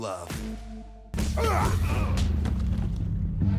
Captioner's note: fighting grunts